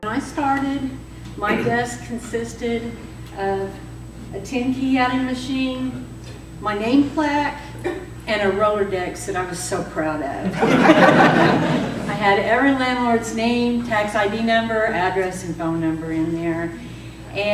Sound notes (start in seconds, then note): 6.7 laughter